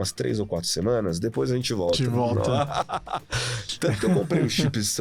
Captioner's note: laughs